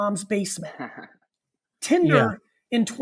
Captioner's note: laughs